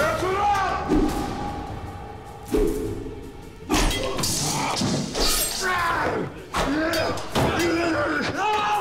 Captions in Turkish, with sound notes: Ertuğrul! (Kılıç sesleri) Ah!